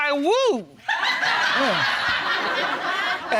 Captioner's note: audience laughs